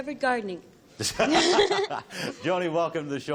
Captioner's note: laughter